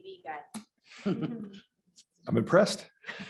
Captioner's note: laughter